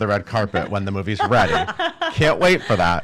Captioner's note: laughing